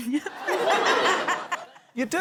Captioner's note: laughter